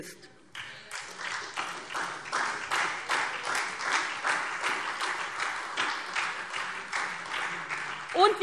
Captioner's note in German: Beifall SPD und DIE LINKE